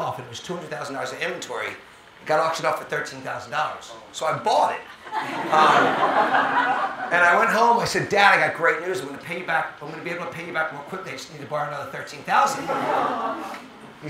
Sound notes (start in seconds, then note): 4.9 audience laughing